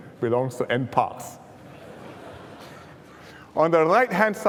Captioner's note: laughter